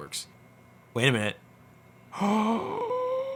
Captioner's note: gasps